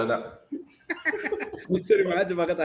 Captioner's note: laughs